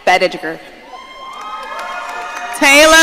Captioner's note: audience cheering